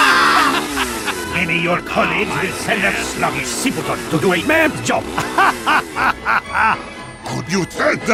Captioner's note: Spy laughs at the Joke, and it's not Funny